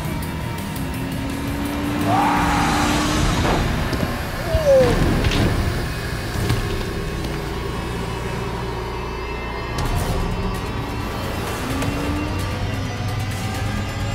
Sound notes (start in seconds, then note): 5.0 bones cracking